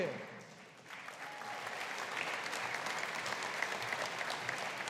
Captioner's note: audience applauding